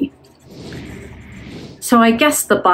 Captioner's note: air whooshing